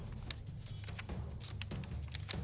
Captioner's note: paper rustling